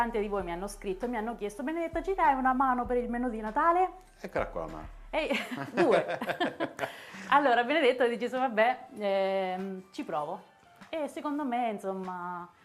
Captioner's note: laughs